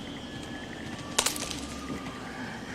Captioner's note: branch snaps; bird cawing